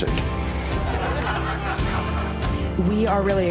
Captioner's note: laughter